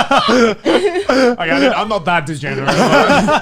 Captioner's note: laughing